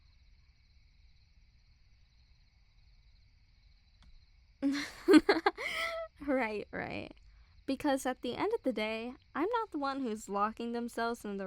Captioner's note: chuckle